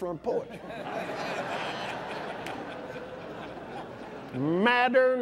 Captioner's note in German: lacht